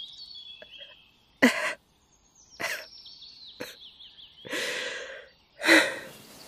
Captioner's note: crying